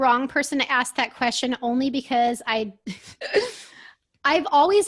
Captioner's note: laughs